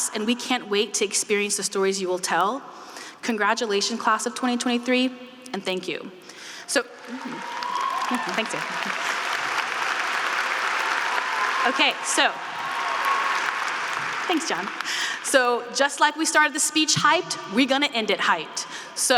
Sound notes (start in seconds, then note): 6.7 audience cheering and applauding; 10.2 audience cheering applauding